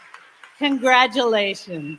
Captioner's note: applause; cheering